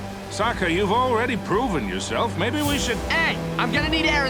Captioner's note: none